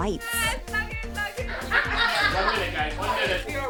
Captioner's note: laughter